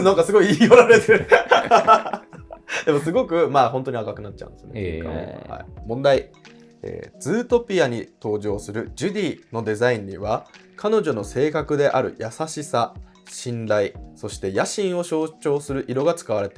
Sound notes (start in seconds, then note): 0.4 laughing